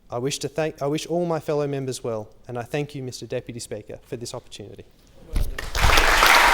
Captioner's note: applause